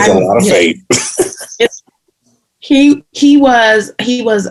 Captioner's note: laughter